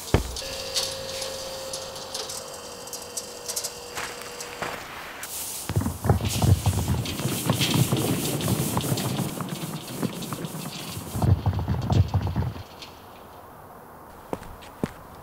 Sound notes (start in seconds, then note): 0.0 high buzz of machinery; 5.6 rustle and dull patter